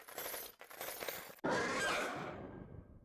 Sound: roars

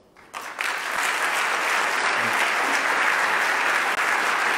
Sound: loud clapping

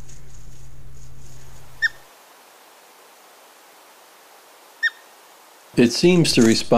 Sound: young otter chirps

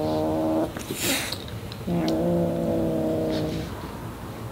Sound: Maxwell growls and hisses

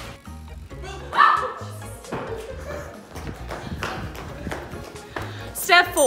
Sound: yelping

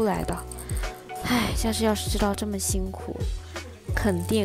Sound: sigh

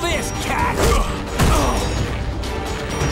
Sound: grunting

